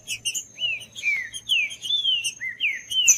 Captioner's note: trinca ferro cantando